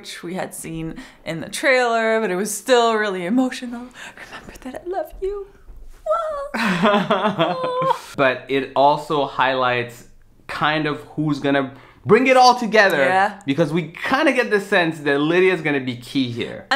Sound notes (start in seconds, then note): 6.1 laughing